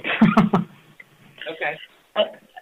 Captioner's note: chuckle